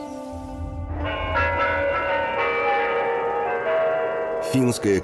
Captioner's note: sound of Kremlin chimes